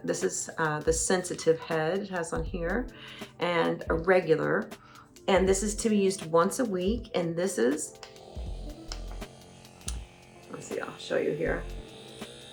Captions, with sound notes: This is the sensitive head, it has on here. And a regular. And this is to be used once a week. And this is. (tool whirring) Let's see, I'll show you here.